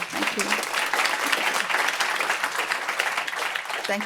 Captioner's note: applause